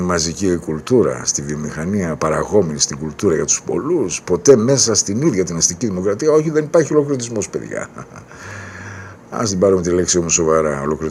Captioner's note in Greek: ξεφυσάει